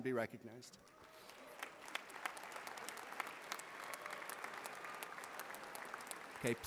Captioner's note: applause